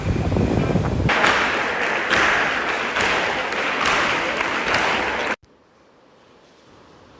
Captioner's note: distant music; clapping